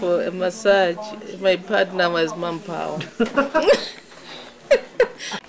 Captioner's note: laughing